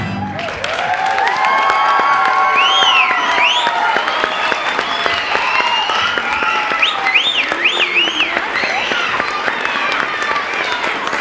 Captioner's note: loud applause, cheering, and whistling